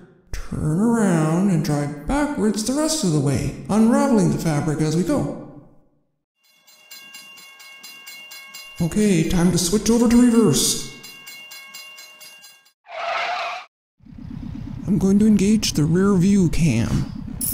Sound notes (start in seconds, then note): 6.4 bell chiming; 12.9 screeching